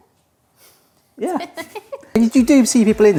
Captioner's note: both laughing